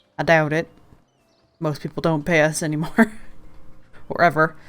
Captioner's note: laughs